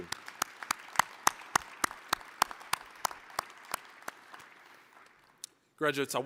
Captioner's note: applause